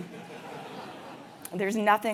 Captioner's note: laugh